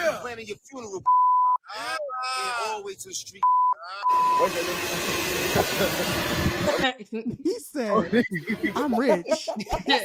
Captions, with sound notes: Yeah. I'm planning your funeral. (beep) I'm always a street. (beep) (laughing) He said. (laughing)